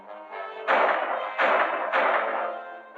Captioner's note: gunshots